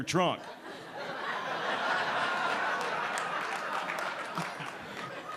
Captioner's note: audience laughing